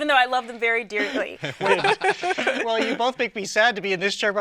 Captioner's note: laughing